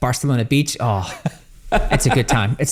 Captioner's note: laughs